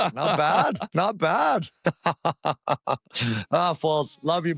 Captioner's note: laughs